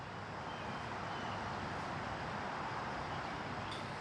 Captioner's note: birds chirping